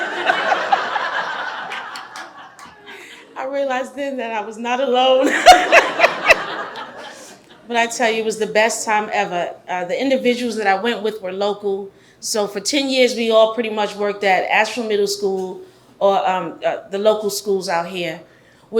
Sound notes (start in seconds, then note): 0.0 all laugh; 5.3 all laugh